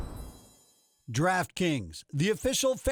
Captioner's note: voiceover